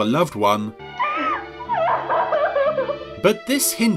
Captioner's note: loud sobbing